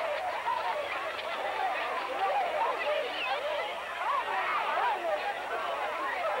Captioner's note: shouting